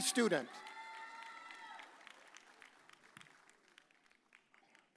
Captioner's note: audience cheers